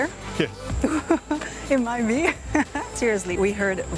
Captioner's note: laughs